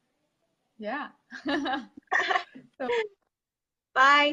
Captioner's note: laugh